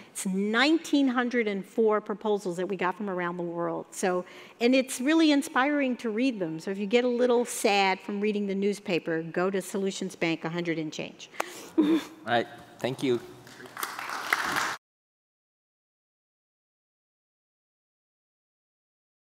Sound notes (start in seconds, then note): 13.4 audience applauding